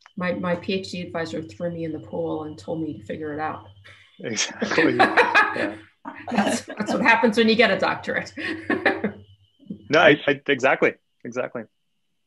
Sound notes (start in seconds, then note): 8.4 laughs